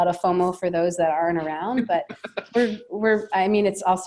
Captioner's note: laughing